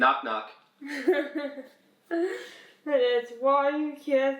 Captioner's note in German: kichert